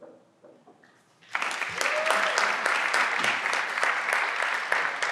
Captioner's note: everyone claps